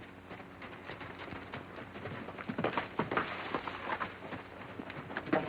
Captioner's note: horses trotting